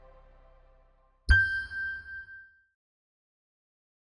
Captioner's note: logo chiming